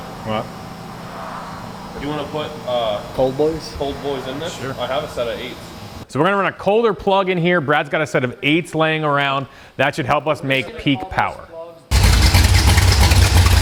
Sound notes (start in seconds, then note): 6.2 engine growling; 11.9 engine revving